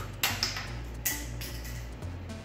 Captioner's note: sound of cap falling to the floor